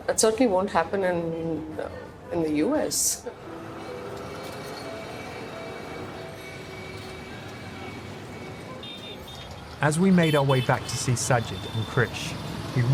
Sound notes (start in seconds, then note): 4.9 cars honking; 6.4 gentle music